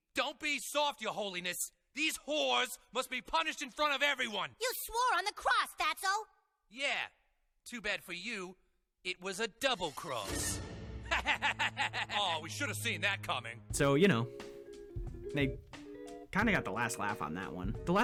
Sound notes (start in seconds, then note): 11.1 laughing